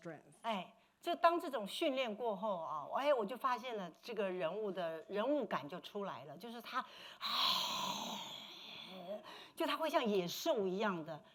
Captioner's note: speaking Mandarin